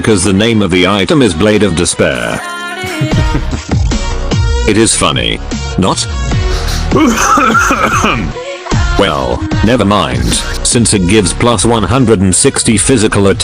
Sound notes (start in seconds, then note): 2.8 laugh; 6.5 cough